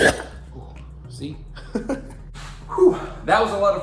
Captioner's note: laughter